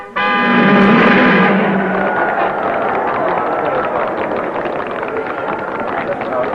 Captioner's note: cars revving; crowd applauding